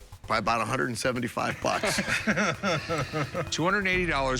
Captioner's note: laughter